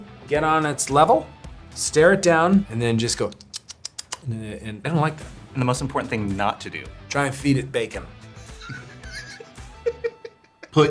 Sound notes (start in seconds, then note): 3.4 smooches; 8.5 laughs